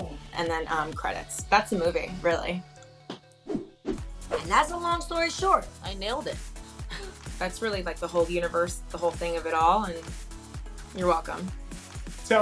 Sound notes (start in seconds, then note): 6.8 scoffs